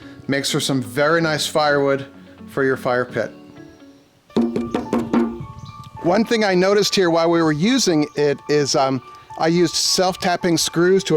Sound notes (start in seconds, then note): 4.4 tapping